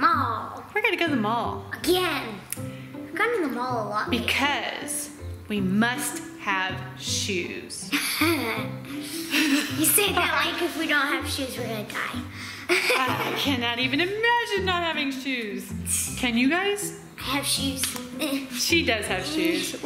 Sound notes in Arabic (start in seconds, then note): 7.9 ضحك; 12.6 ضحك; 15.5 يسخر